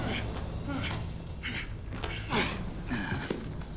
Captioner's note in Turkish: Nefes sesleri